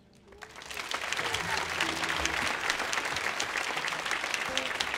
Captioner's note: audience applauding